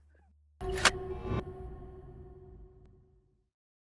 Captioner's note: gun click, swoosh